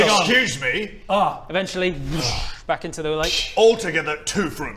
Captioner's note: whoosh